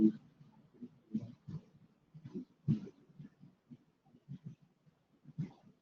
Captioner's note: no audible response